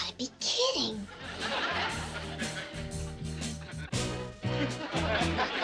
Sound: audience laughs

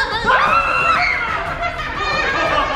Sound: yelling; screaming; laughing

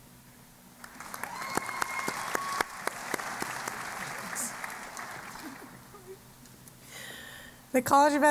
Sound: applause

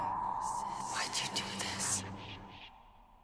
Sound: whispers: Why'd you do this?

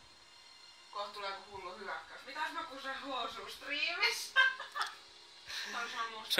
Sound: laughing

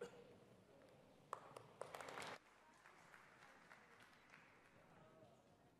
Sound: audience applauds

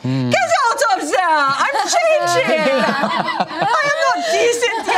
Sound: imitates German accent

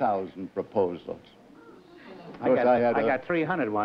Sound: amazed gasps

